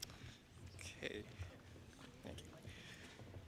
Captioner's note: none